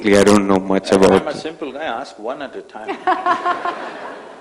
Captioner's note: laughter